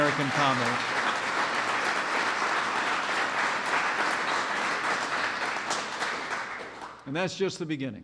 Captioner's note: applause